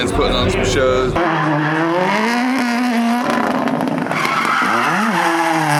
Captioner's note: car engine roaring